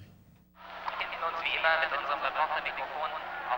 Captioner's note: loudspeaker announcement in german